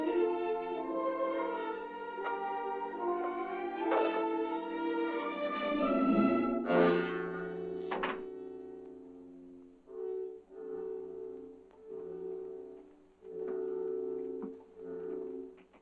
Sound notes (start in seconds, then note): 7.8 door closes